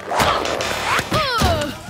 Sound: grunting; groaning

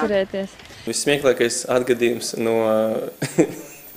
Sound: laughing

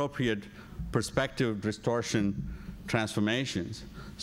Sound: ? distortion ?

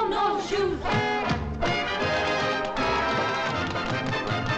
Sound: women tapping

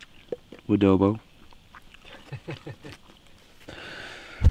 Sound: men laughing

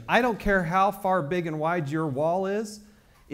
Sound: none

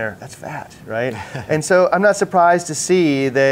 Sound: chuckles

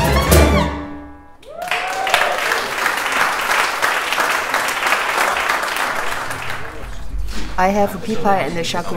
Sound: audience clapping

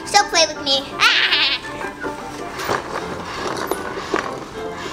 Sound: Gabby Gabby chuckles

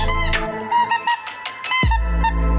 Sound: goose calls

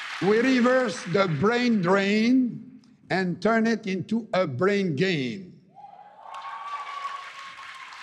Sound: cheering and APPLAUSE

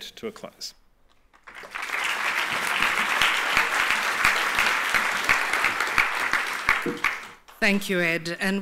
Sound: applause

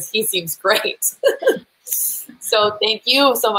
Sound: laughing

